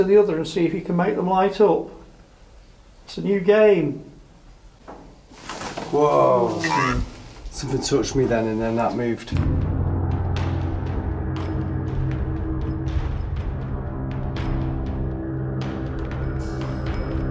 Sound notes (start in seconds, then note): 4.9 thumping; 9.3 dramatic music